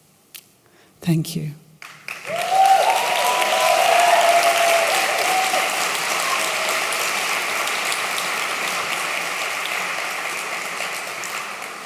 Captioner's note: applause